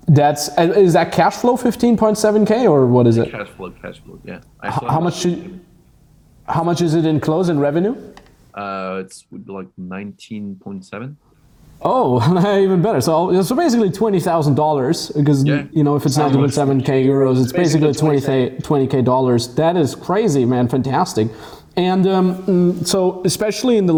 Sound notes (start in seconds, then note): 12.2 laughs